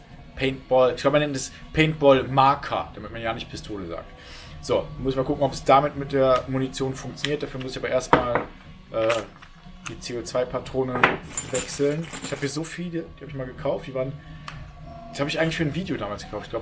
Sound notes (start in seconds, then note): none